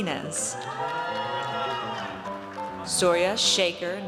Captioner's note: audience cheers